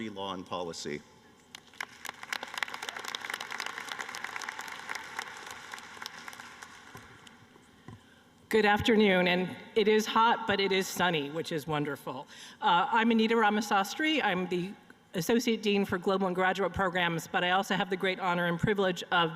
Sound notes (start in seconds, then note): 7.1 applause